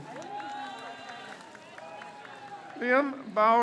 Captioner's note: crowd cheers